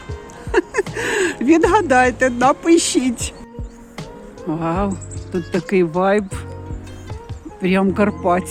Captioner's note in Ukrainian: сміх